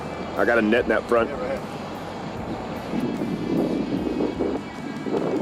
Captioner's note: muffled by wind